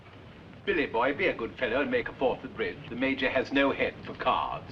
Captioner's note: none